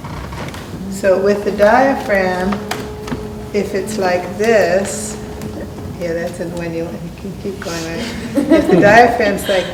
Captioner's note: person laughs